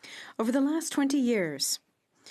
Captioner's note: speaking French